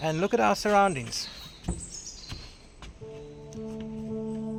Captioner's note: birds chirping